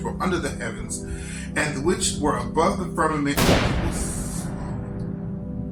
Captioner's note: boom